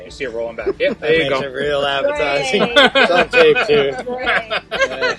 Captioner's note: giggles It's on tape too